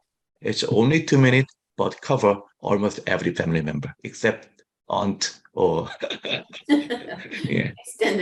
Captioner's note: laughs